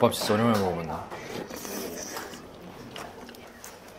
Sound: slurping

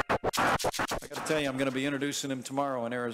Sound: Mike Pence speaking

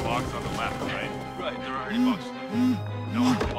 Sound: phone ALARM buzzing

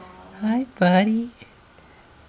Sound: none

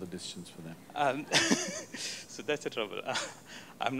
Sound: laughs

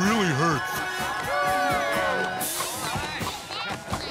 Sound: cheering

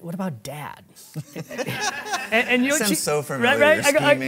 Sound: audience laughing

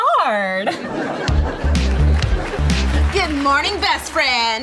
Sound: laugh track

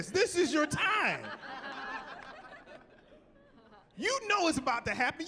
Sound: laughing

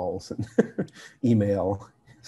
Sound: laughs

